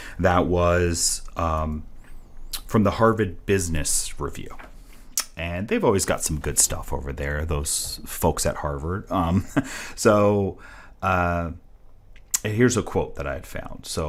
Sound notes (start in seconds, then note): 9.1 chuckles